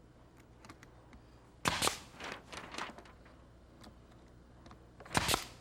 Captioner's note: nail gun popping